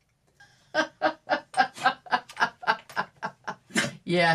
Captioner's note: laughs